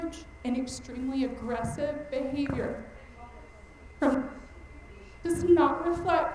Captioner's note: mic cutting out